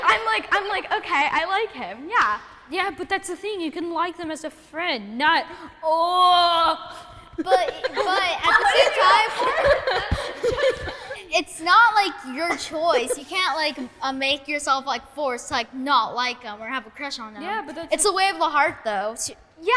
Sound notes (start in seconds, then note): 0.0 kids giggling; 7.3 kids laughing and giggling